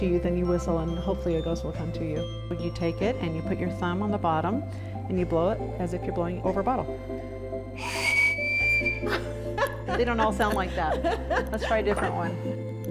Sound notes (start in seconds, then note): 7.7 ghost whistling blowing; 7.8 laughing